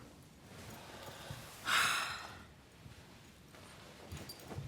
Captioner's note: sighs